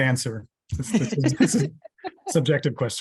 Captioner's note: laughter